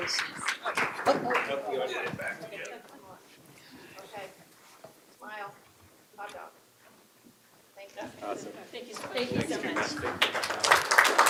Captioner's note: applause